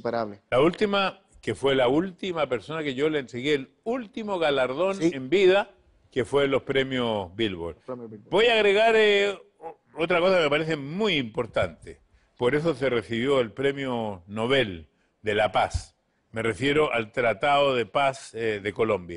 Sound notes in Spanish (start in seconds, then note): none